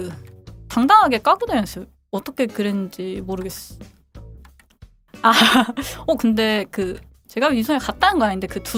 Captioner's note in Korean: 웃음